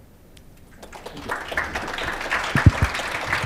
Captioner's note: applause